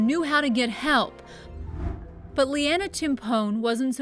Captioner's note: air whooshing